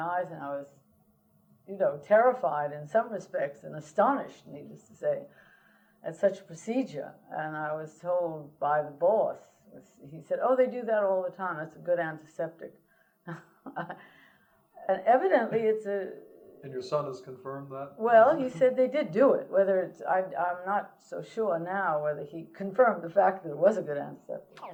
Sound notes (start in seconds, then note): 13.3 laughter